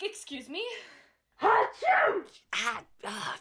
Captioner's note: sneezes